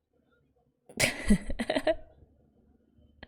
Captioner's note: laughs